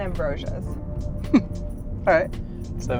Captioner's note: chuckle